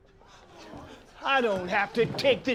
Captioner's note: all gasping